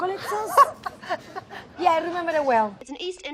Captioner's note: laughs